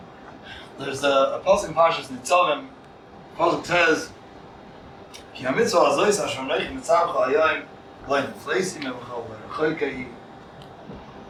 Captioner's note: Hebrew